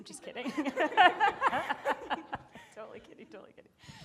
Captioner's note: audience laughing